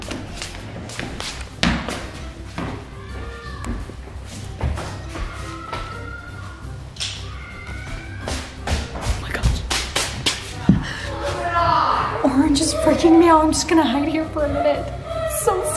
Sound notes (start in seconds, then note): 0.0 footsteps; 3.6 screams; 10.1 whispers